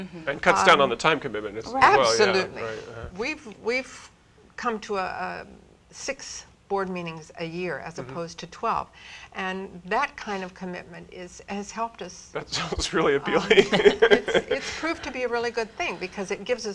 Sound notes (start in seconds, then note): 13.3 laugh